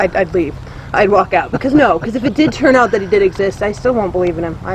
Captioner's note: laughs